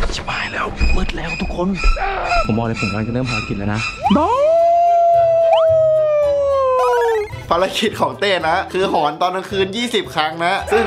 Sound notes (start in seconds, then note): 4.0 howling